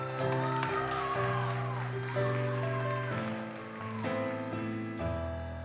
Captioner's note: audience cheers and applauds